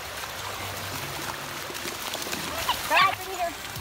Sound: water splashes

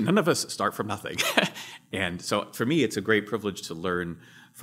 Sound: laughs

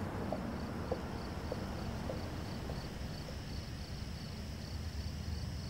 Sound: crickets chirping

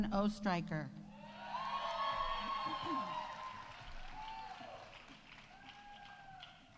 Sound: audience cheering; audience applauding

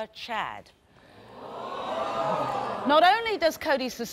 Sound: audience gasps

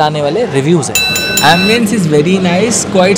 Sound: bell ringing

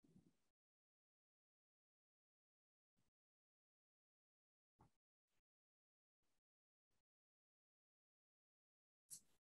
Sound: no sound

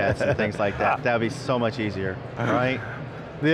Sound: laughing

